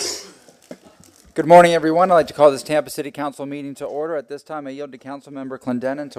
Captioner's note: sounding gavel